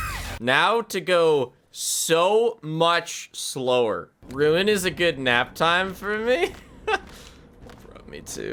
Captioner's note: laughs